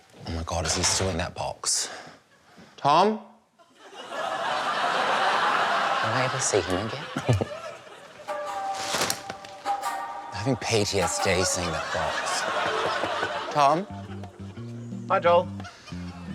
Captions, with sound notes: Oh, my God. Is he still in that box? Tom? (LAUGHTER) Will I ever see him again? (CHUCKLES) I'm having PTSD seeing that box. Tom? Hi, Joel.